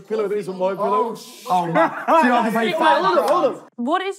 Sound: laughing

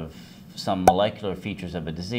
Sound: pop

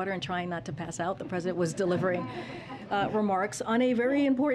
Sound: laughter

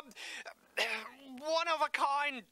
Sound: reluctant cough

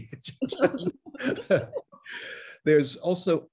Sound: both laughing

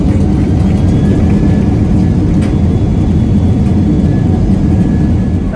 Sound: engine roaring

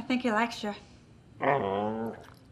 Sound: soft growl

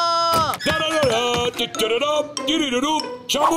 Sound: making music with his voice

